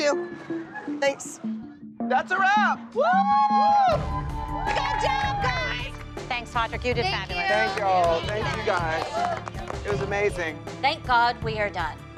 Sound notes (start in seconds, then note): 2.9 whooping